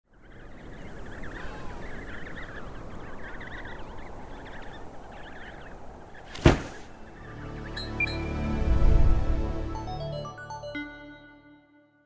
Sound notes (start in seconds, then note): 0.0 wind blowing; 0.3 baby penguins chirping; 6.2 loud thud; 6.4 musical drone; 7.8 metallic "blink" sound effect; 7.8 short uptempo melody; 8.8 whoosh